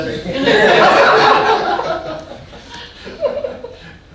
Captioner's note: audience laughing